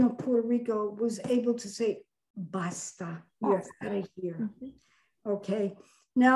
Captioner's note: speaks in foreign language